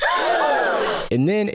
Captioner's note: the same crowd gasp